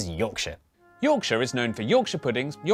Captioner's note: voiceover